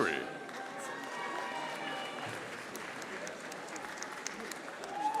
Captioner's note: audience applauding